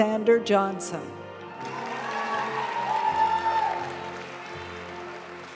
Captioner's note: audience cheering and applauding; graduation music